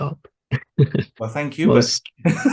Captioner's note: chuckles; laughs